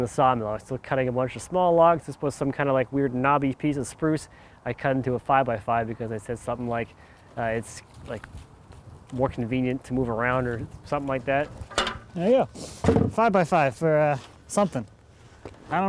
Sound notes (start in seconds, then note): 11.5 metal clanks